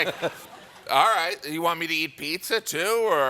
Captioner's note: laughter